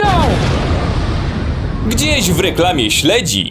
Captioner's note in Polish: boom!!!